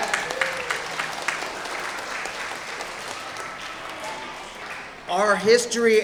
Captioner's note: audience applauding